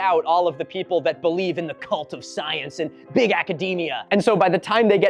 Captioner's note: mocking voice